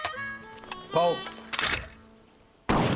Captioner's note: clicking sound; rifle clicks; gunshots fired